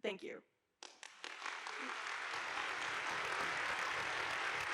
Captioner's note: audience applauding